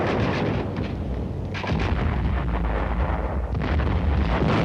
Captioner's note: explosions